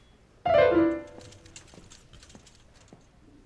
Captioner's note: piano stops abruptly; squeaky wheels